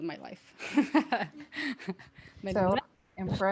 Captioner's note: laughter